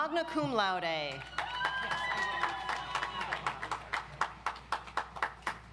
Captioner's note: audience applauds